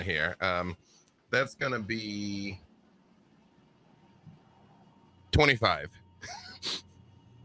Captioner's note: chuckles